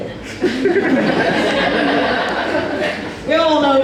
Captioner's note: audience Laughs